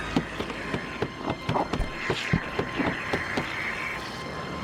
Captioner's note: banging on window